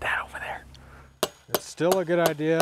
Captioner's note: hammer clanging